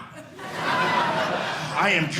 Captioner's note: audience laughing